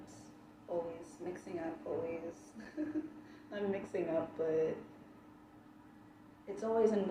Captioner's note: chuckles